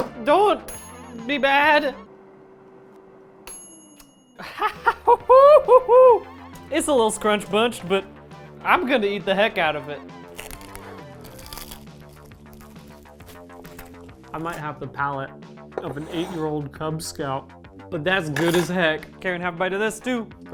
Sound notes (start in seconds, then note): 3.4 ding